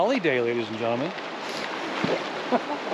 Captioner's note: chuckling